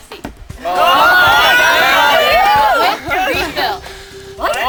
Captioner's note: all cheering